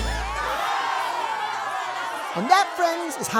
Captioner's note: crowd cheers